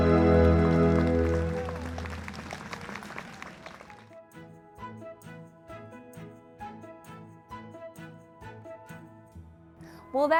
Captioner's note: applause